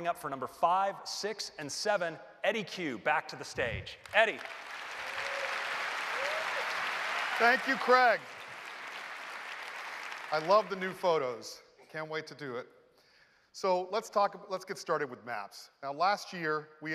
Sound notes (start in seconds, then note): 5.4 applause